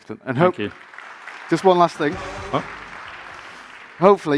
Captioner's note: audience applauding